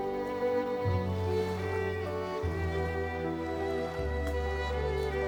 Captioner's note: birds chirping; water sloshing